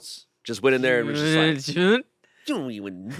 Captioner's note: mumbles